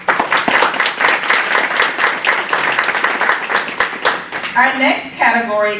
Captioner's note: applause